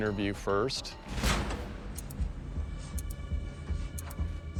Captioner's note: clock ticking